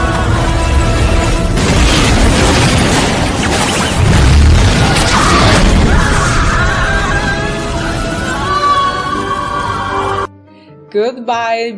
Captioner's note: explosion and screams